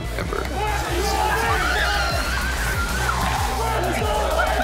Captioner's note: cheers and screams; ”Let’s Go Liquid!” crowd chant